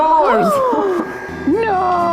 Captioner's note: gasps